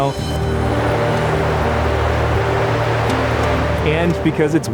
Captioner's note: wind whooshing